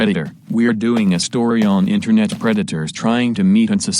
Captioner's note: footsteps